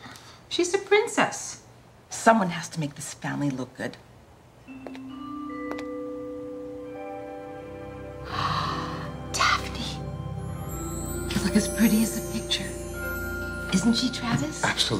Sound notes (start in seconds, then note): 4.9 bright music; 8.7 gasps